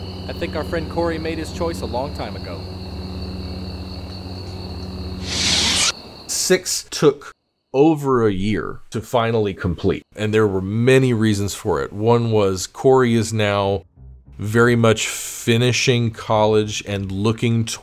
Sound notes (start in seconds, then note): 5.2 saber retracts